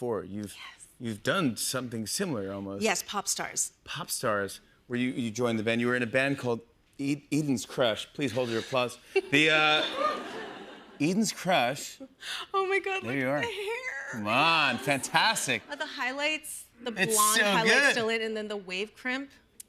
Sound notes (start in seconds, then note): 9.1 laughter